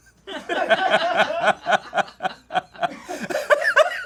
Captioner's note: laughs; crew laughs